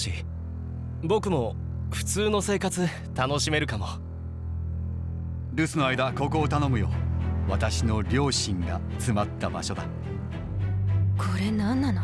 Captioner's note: foreign language